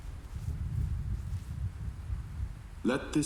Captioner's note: thunder rolling